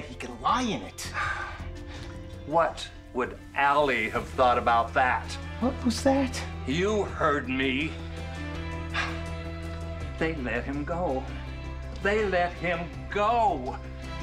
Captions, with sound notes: He could lie in it. - (sighs) What would Allie have thought about that? - What was that? - You heard me? (tense music) They let him go. They let him go!